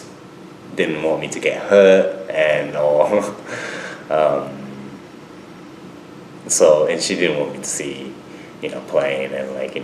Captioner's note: laughs